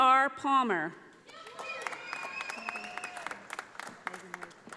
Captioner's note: audience applauding